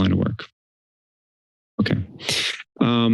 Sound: silence

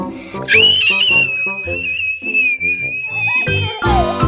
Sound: shrieks

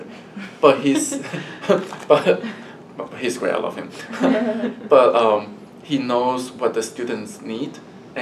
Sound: laugh

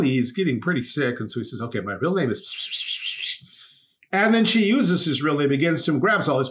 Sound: whispering

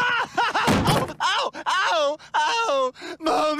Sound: evil laughing fall in floor accident; sobbing

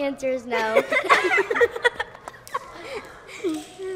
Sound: children laughing

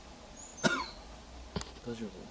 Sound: coughs

